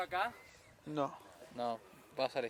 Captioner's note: sighs